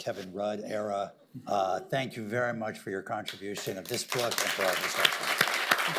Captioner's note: applause